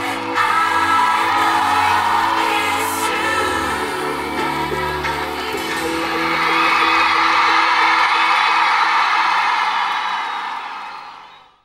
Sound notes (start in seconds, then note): 6.7 crowd cheering